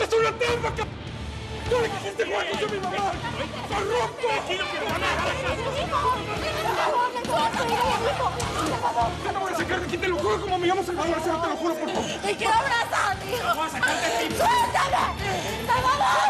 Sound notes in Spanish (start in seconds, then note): 1.8 discuten a gritos; 3.2 todos gritan